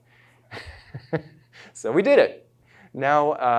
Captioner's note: chuckles